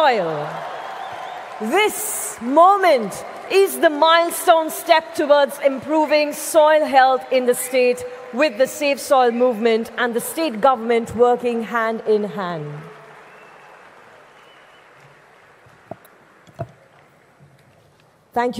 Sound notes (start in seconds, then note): 13.6 laughter/Applause